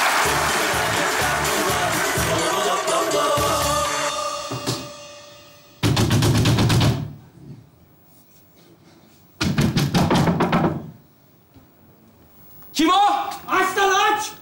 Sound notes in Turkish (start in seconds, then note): 5.7 Yumruklama sesleri; 9.3 Yumruklama sesleri